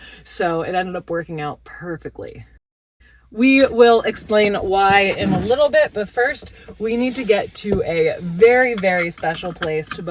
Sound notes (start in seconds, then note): none